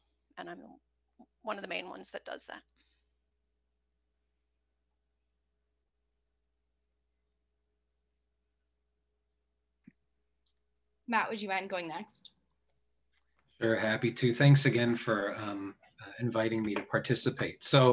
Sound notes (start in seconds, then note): 2.7 silence